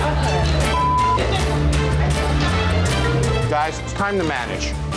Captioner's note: beep